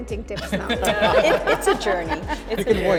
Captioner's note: group laughs